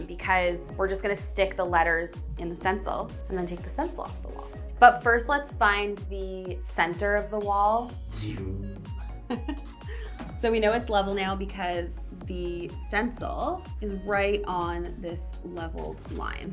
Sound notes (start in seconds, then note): 8.1 imitates laser; 9.2 giggles